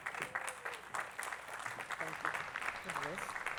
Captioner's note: attendees clapping